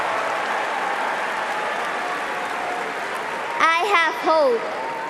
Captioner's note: cheering and applause